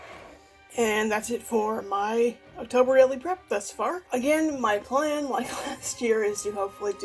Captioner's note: chuckles